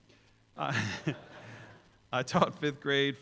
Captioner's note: chuckles